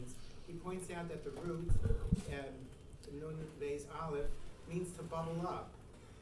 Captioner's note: speaking in foreign language